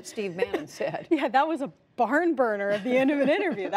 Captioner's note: laughter